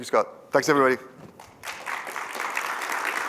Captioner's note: applause